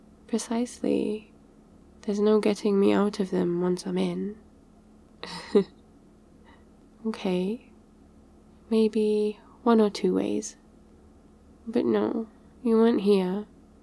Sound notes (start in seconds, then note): 5.2 laughs